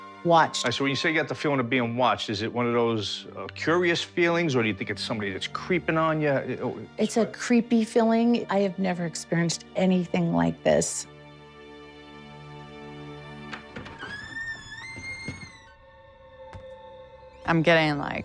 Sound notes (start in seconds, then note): 13.2 door creaking